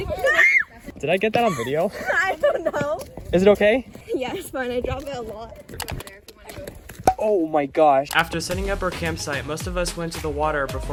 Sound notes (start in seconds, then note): 0.2 scream; 1.4 laughs; 8.1 voiceover